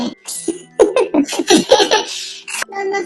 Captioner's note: laughs